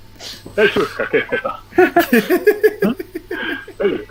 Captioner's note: laughing